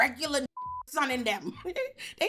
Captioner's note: beep